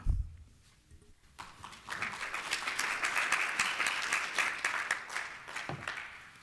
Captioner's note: applause